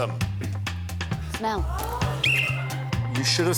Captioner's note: blows whistle